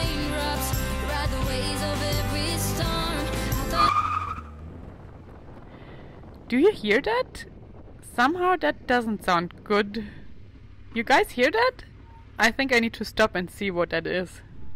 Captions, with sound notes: (tires squealing) - Do you hear that? Somehow that doesn't sound good. You guys hear that. I think I need to stop and see what that is.